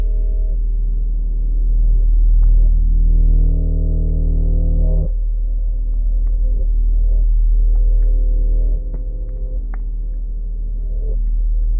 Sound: constant buzzing sound interrupted intermittently by popping

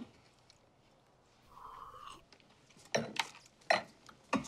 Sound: both slurp, swish

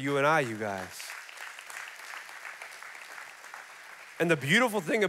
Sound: congregation clapping

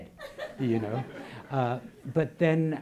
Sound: laughing

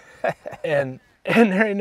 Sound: laughs

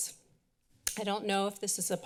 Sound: tongue clicks

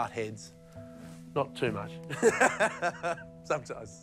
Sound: laughs

